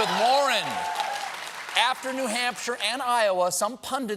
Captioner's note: cheers and applause